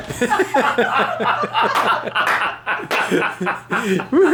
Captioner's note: all laugh